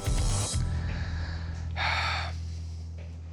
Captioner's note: sighs